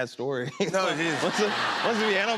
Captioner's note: laughter